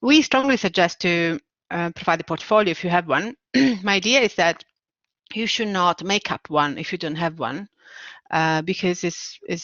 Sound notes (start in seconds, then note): 3.3 clearing throat